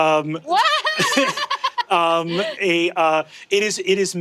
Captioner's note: laughing